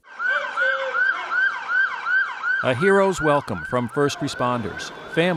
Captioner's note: siren